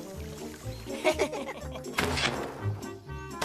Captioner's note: chuckling